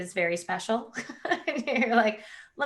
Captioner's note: laughing